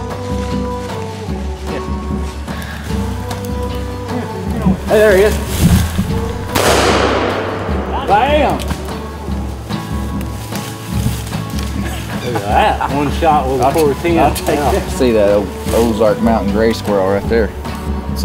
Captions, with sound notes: - Hey there he is. (gun shooting) Bam! Look at that, one shot with a .410. - See that Ozark Mountain gray squirrel right there.